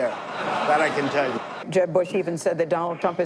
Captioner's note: audience laughing